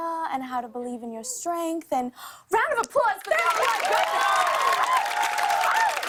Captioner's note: cheers and applause